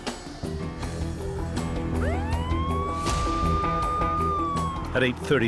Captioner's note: police sirens